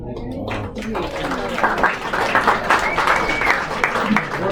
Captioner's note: applause